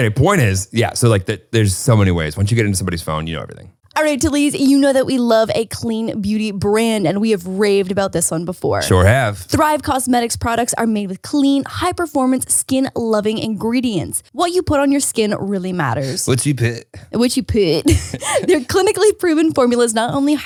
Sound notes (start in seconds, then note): 17.8 both laughing